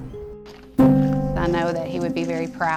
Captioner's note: graphics shuffling